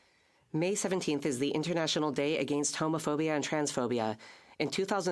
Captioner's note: speaking French